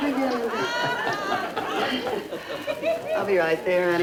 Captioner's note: audience laughter